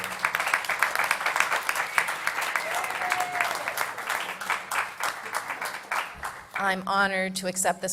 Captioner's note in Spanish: Aplausos